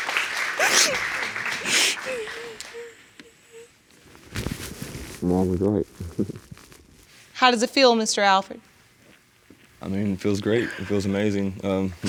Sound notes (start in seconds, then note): 0.0 weeping